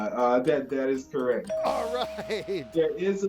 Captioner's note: tone chimes